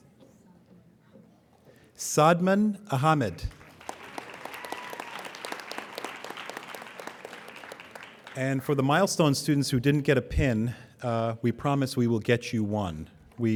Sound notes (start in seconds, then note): 3.4 applauding